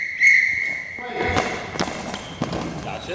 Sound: sound of ball with bells in it

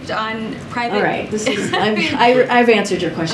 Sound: laughs

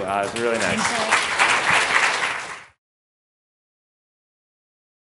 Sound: audience clapping

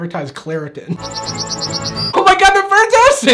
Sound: bird chirping

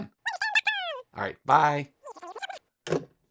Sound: cartoon speaking

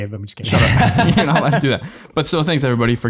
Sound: laughs

